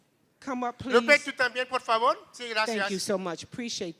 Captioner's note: non-english speech